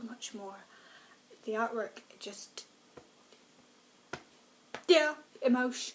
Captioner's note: thumps chest